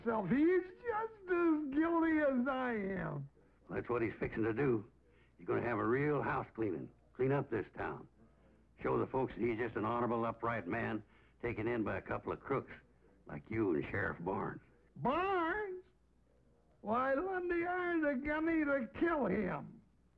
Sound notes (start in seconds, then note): none